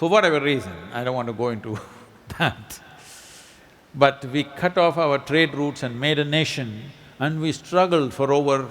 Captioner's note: laughs